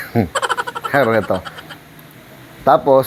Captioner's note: laugh